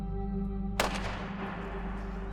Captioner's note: gunshot